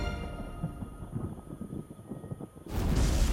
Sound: thunder rumbling

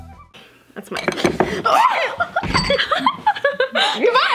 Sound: laughs; screams

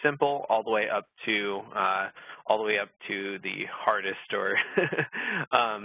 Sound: laughs

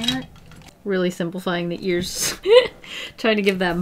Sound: laughs

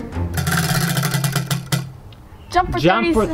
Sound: wheel clanks around metal axle

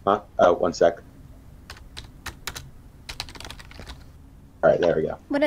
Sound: typing

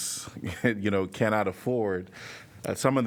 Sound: laughter

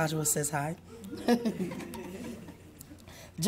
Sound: laughs

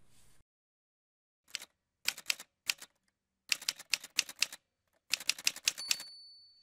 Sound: typewriter Sounds

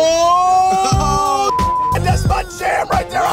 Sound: beeps

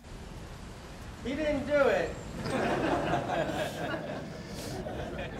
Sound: laughter

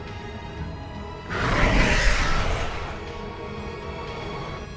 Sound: Shriekwing roars

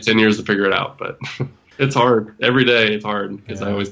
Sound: laughs

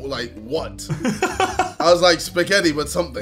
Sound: laughing

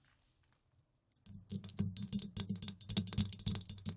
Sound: tapping

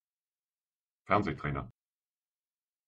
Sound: fast Pronunciation

